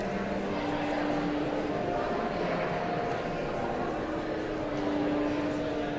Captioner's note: audience chattering continues